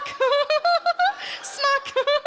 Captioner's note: Sarah giggles